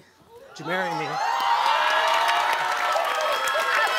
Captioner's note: audience applauding and cheering